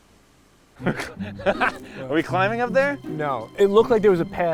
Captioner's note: laughs